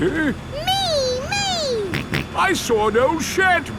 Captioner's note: snorts